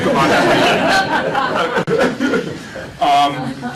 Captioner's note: laughter